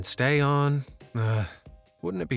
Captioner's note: exhales